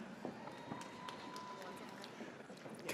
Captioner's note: audience cheers